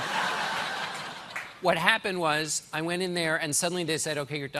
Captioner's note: laughter